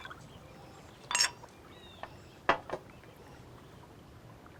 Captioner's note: glass clinking